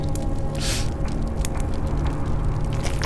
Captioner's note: inhales sharply